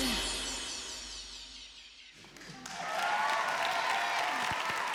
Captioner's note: cheering